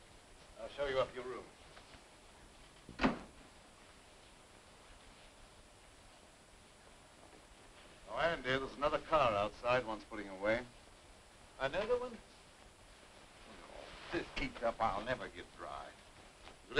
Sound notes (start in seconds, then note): 1.8 rain pattering